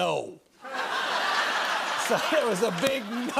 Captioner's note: laughter